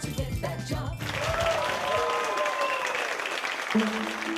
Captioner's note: crowd applauding